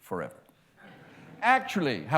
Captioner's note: laughter